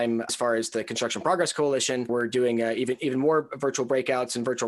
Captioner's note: none